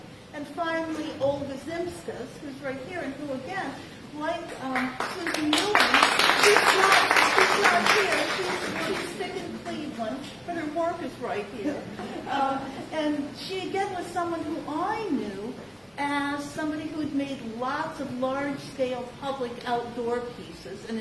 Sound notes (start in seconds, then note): 4.7 applause; 11.8 laughter